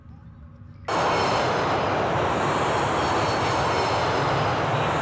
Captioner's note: plane engine roars